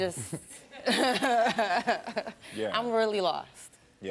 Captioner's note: chuckles